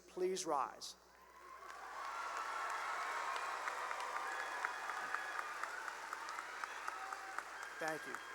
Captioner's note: cheering and applause